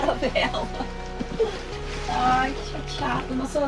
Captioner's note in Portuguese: risadas